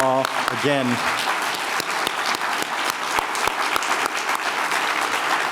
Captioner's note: everyone applauding